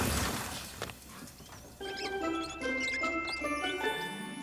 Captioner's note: crash!; wheels squeaking